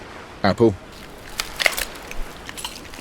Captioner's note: apple crunching